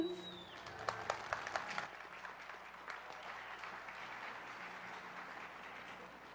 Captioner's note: applause